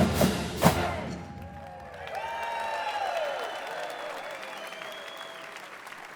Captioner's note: applause